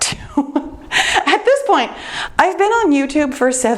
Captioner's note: laughs